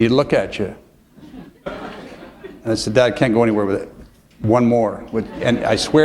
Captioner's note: laughter